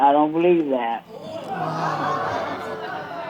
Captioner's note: audience gasping